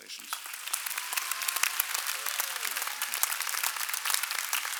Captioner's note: applause